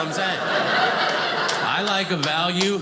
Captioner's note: audience laughing